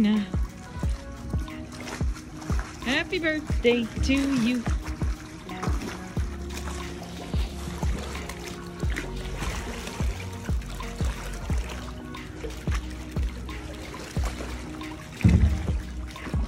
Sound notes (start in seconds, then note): 0.1 water splashing noises; 5.2 background music; 5.2 water splashing noises